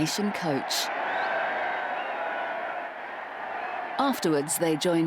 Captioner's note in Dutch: publiek juicht